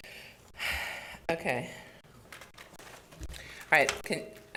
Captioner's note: sighs